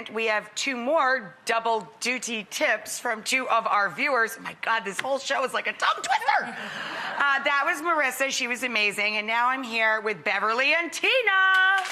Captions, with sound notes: We have two more double duty tips from two of our viewers. My God, this whole show is like a tongue twister. (laughing) That was Marissa, she was amazing, and now I'm here with Beverley and Tina!